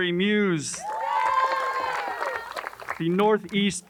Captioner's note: crowd cheers and applauds